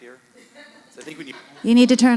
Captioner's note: audience laughing